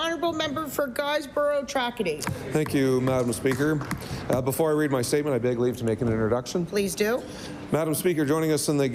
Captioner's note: applause